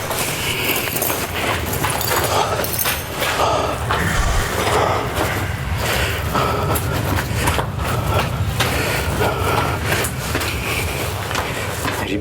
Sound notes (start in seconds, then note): 3.8 sound of laughter and growling